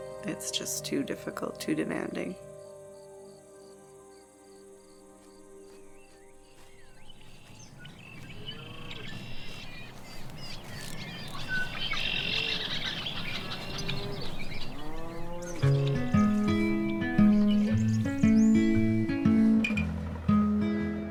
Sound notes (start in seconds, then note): 2.9 insects chirping; 7.2 birds chirping; 12.2 cows mooing